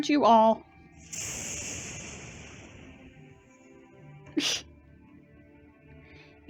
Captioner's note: thunder; laughs